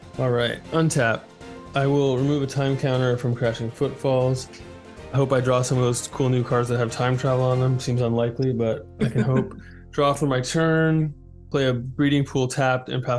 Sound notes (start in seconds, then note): 9.0 laughs